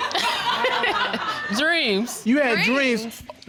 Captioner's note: audience laughing